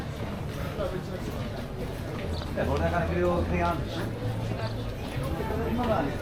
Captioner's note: people chattering